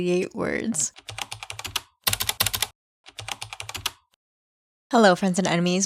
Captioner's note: typing